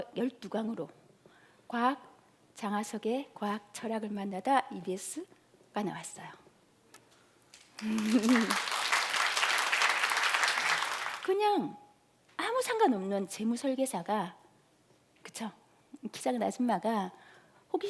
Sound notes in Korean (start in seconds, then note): 7.6 박수